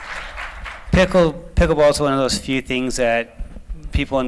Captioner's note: applause